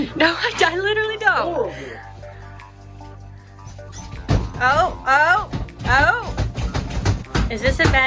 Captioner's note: laughter